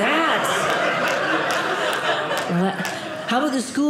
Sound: audience laughing

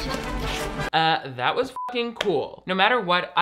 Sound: beep

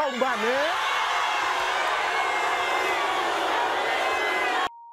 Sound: audience boos

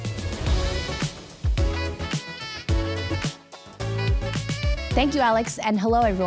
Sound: jazzy music intensifies; graphics whoosh

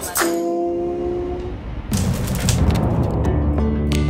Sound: fire crackling; gentle music

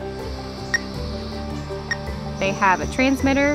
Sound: machine beeps

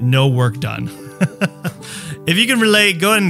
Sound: chuckles

